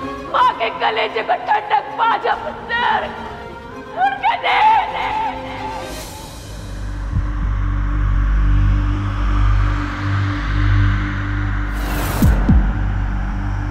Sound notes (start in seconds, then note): 6.5 wind blows